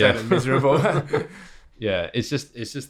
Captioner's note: laughter